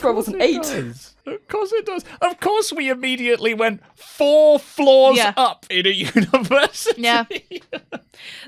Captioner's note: laughs